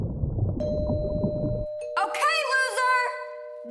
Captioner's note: water burbles; doorbell rings